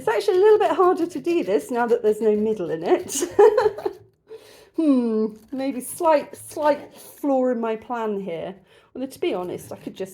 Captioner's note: laughing